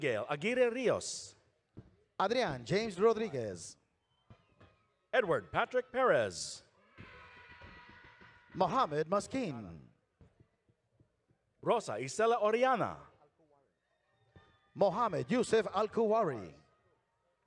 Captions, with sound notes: - Abigail Aguirre Rios. - Adrian James Rodriguez. - Edward Patrick Perez. (audience cheering) - Mohamed Masking. - Rosa Isela Orellana. - Mohammed Yousef Alkuwari.